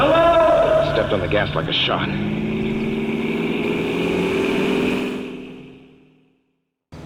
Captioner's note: car engine, faster